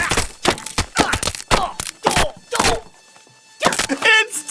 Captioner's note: crash bang tear crack rip